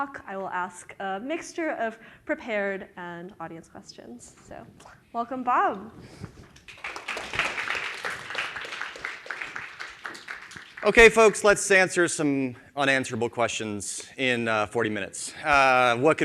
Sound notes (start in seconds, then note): 6.5 audience applauds